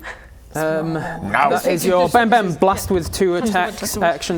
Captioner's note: bam bam